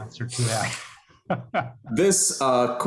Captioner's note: laughter